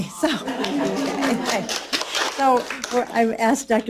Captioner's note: applause